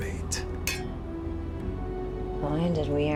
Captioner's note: glasses clinking